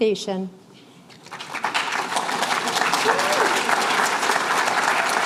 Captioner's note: applause